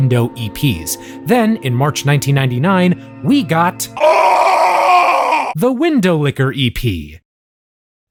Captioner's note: screaming